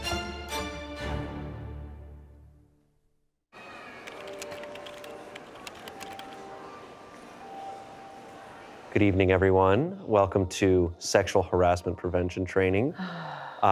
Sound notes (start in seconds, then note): 4.0 keys tapping